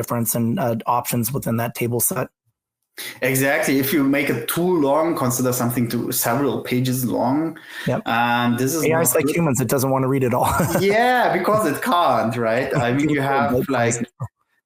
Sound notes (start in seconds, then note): 10.3 laughs